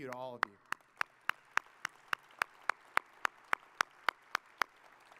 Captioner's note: audience applauding